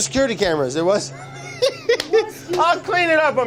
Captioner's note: laughter